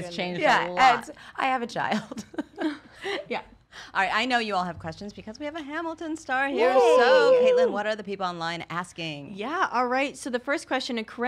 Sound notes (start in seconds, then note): 2.5 laughs; 6.5 cheer